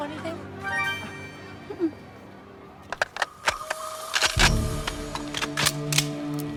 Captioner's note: suspenseful music; guns cocking